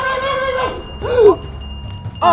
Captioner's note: gasp